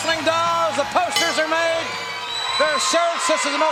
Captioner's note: bell ringing